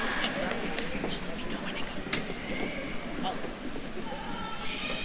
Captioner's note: group chattering